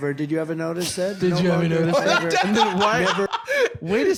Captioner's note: laughing